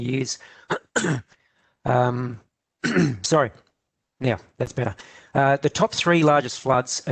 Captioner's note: clears throat